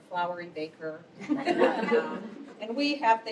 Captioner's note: laughter